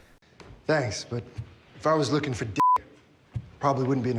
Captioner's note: beep